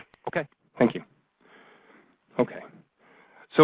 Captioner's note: voiceover